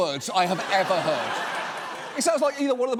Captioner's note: audience laughs